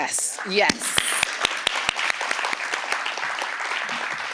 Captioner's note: applause